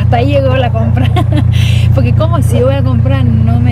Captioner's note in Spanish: risas